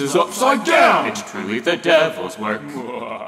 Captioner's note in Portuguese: Risada maléfica